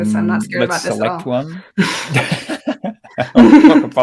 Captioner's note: giggles